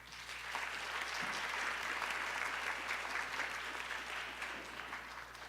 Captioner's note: applause